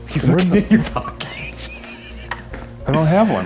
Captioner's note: laughing